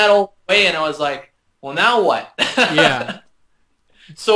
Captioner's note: laughter